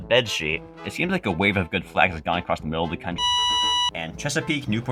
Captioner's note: life support beep